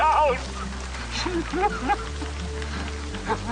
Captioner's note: crying